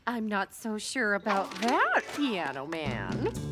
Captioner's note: gulp